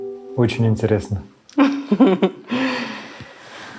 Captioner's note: laughs